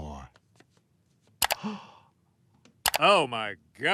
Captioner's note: doctor gasps